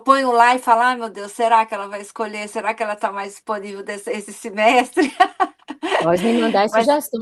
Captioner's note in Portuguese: risadas